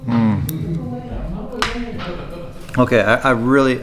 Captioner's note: people speaking in the background